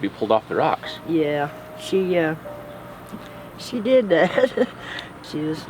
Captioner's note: chuckling